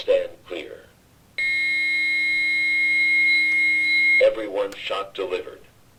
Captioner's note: long Beep